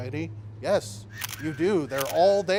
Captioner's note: shutter clicks